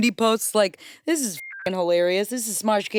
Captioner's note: beep